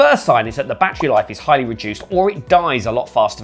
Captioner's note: soft popping